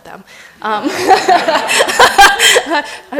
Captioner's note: laughter